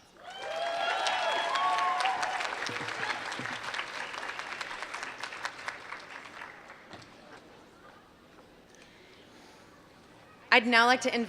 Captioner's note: applause